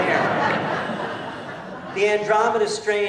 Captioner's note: laughter